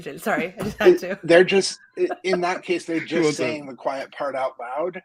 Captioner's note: laugh